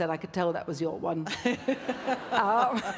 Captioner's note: laughs